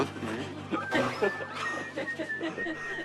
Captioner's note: ㅋㅋㅋㅋㅋㅋㅋㅋㅋㅋ